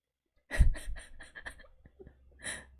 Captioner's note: laughs